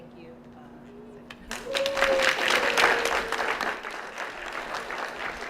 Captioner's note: applause